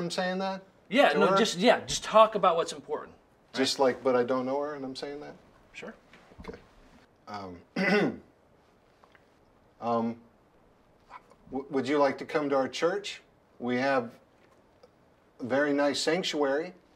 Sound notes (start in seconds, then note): 7.7 Mr. Riley clearing his throat